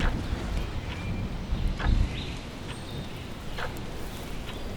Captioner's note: heavy rainfall; birds singing